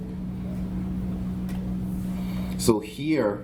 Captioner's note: background chatter